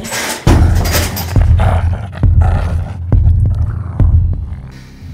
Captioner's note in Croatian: režanje